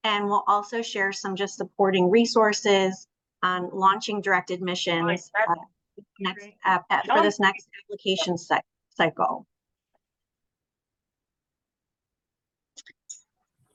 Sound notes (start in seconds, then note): 5.0 participant speaks faintly